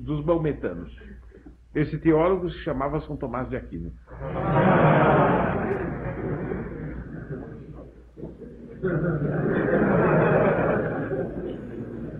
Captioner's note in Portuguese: risos